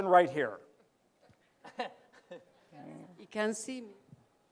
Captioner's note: laughs